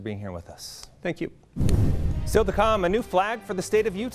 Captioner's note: air whooshing